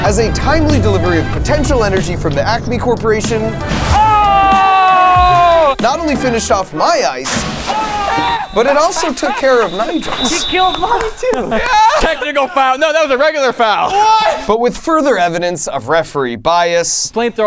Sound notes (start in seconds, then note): 7.6 whistle blowing